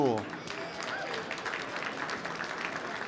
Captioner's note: applause